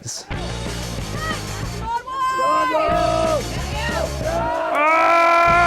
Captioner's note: Wastelanders cheer